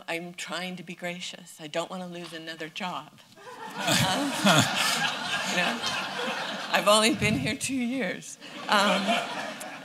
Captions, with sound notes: I'm trying to be gracious. I don't want to lose another job. [LAUGHTER] I've only been here two years.